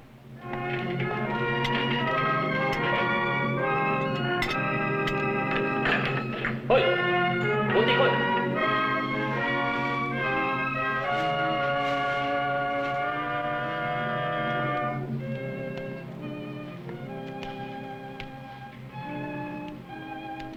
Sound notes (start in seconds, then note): 0.2 intriguing music; 6.7 non-english speech